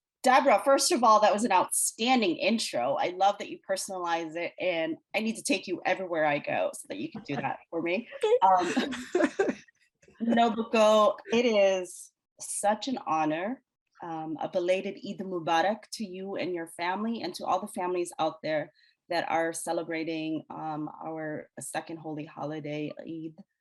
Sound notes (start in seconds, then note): 8.1 laughs